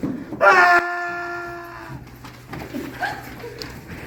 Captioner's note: screaming